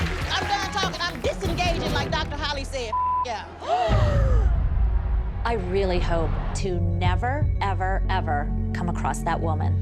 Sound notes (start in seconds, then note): 4.0 gasps